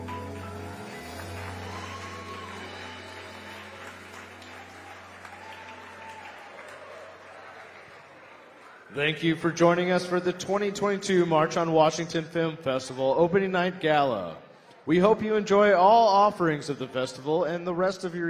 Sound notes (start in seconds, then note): 5.4 applause